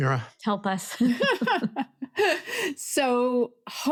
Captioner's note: laughs